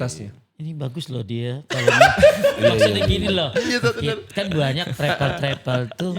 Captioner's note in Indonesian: tertawa